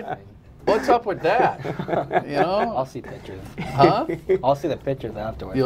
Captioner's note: laughter